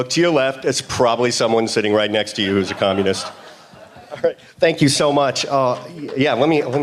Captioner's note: laughter